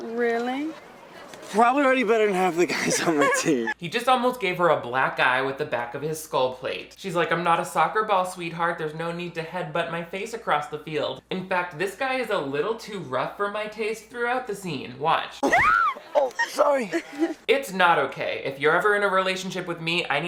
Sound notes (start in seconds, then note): 15.4 Viola screams